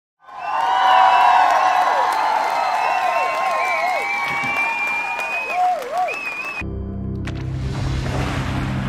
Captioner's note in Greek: Χειροκροτήματα